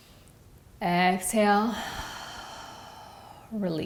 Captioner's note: breathes deeply